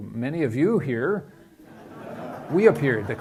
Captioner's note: laughing